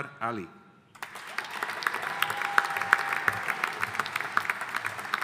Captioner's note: audience applauding